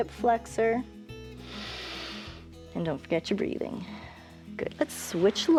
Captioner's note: inhales